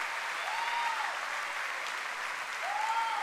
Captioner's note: cheering and applause